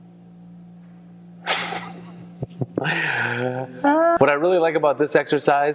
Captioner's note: laughs